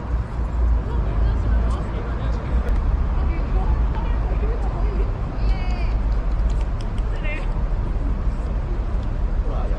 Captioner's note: clap hands